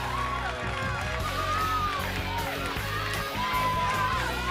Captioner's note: crowd cheering